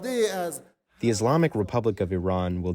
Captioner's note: through translator